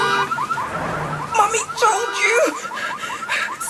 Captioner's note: car alarm